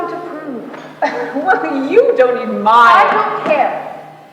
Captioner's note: laughs